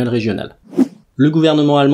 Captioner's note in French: Son de transition